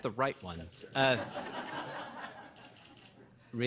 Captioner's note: laughter